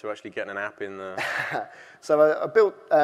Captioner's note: laughing